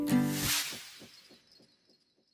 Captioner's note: sound effect